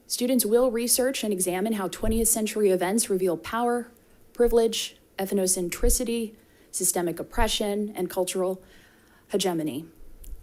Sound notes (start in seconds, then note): none